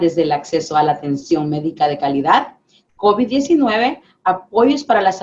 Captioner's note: speaking spanish